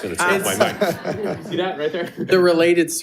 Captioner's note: board laughs